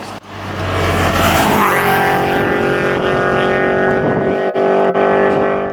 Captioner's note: car engine roaring